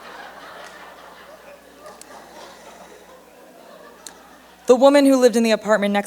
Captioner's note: laughter